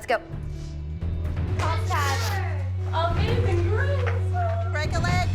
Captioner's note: girls chattering